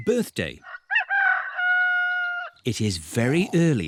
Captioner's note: roster crows